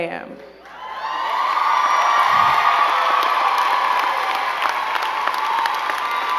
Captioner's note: crowd cheering and clapping